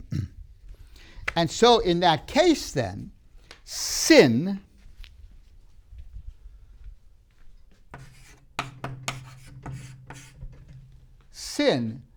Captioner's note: clears throat